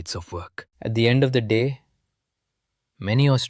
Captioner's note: thoughtful